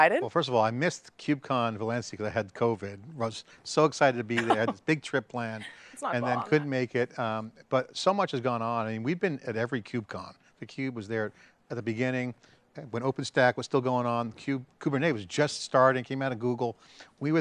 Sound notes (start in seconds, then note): 5.6 laughing